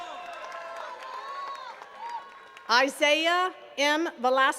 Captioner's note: attendees cheering and clapping